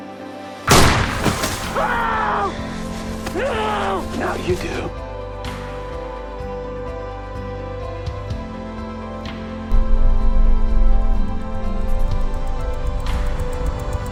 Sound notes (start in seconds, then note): 0.6 gunshot; 1.6 muffled screams; 11.6 clock ticking faster then slower